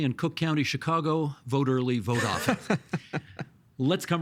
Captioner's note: laughing